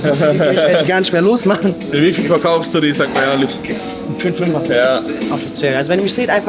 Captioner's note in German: gelächter